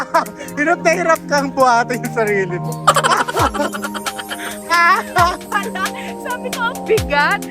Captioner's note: continuously laughing; laughing SFX; laughing